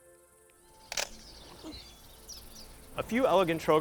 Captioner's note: camera snaps